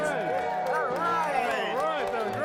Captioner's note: crowd cheers